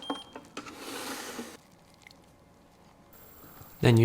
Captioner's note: scale beeps